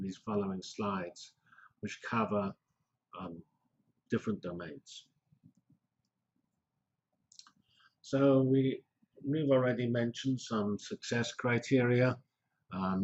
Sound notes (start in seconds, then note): 5.0 pause